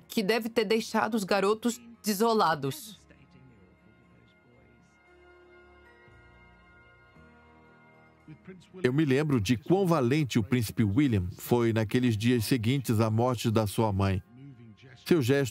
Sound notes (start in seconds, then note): 8.3 voiceover